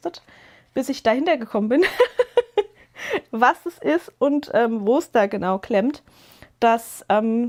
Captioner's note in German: gelächter